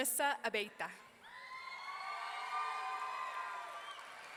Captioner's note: audience cheering